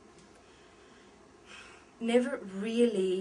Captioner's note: sigh